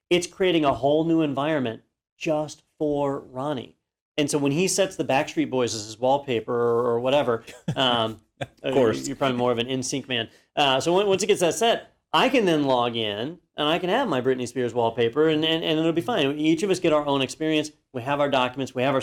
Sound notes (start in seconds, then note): 8.3 laugh